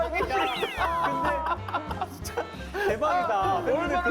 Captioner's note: the whole studio is cracking up